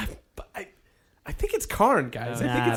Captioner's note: noise of frustration